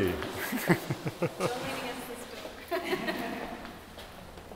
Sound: laughs

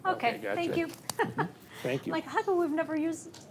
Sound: laughs

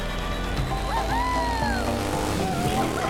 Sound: engine revving; joyful music

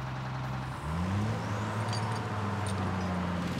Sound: engine revving

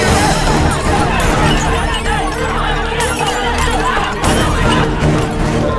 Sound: crowd screaming and instructing

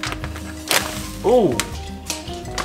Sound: paper rustling

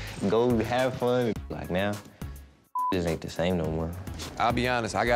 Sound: beep

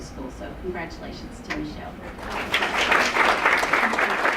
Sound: applause

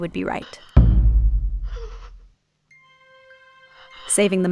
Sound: eerie booms; faint cries

